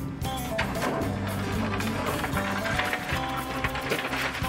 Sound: engine whirring

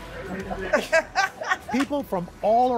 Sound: laughter

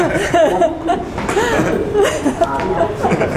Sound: both laugh

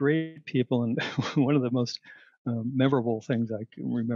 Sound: laughter

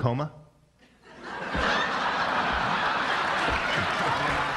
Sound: mass laughter / applause

